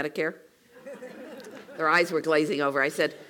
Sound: laugh

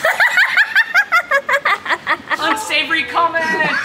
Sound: laughter

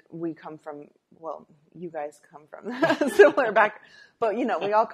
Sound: laughter

